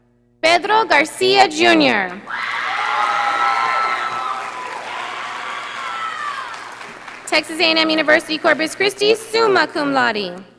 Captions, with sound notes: Pedro Garcia Junior. (audience applauding) Texas A&M University Corpus Christi, summa cum laude.